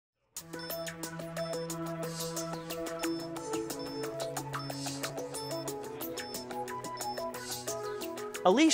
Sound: drone beeping

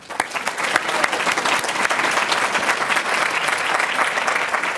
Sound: audience applauding

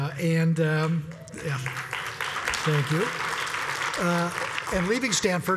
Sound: applause

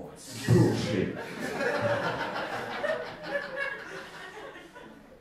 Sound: audience laughing

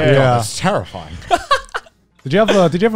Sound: laughs

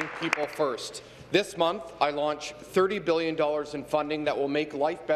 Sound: applause

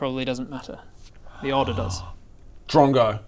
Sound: gasp

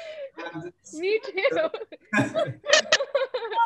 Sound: all laughing

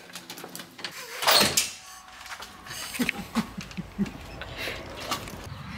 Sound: laughing

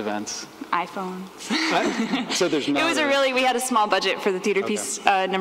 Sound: laughs

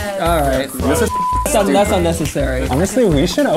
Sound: beeps

